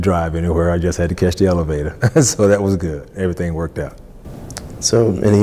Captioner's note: laughs